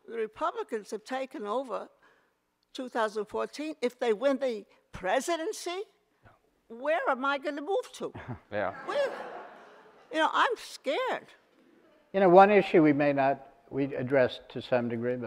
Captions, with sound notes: Republicans have taken over 2014, if they win the presidency, where am I gonna move to? (audience laughter) You know, I'm scared. - You know, one issue we addressed to some degree,